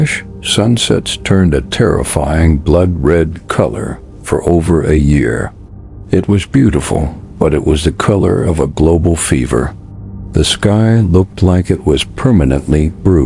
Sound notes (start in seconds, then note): 7.4 sarcastic Commentary